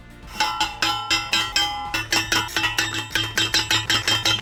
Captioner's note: upbeat music; post pounder clanging